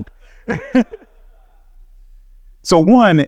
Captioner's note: laughing